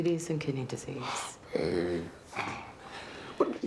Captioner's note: sighs